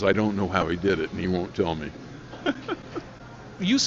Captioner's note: laughing